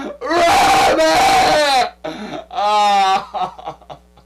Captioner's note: crying